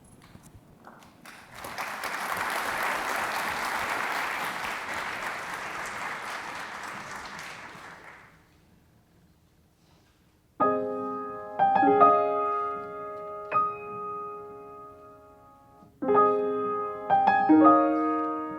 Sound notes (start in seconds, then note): 0.9 audience applauding; 10.6 lighthearted piano music